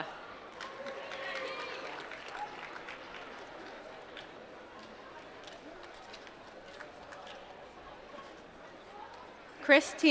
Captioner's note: applause